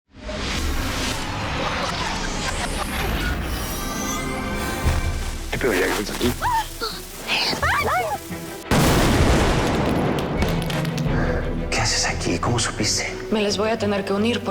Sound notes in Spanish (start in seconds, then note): 5.3 Exclamaciones; 8.6 Explosión